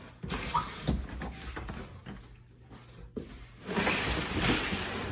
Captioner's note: cardboard scraping